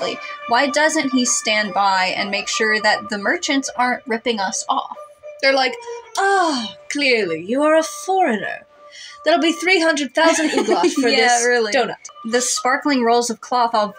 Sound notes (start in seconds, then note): 10.2 laugh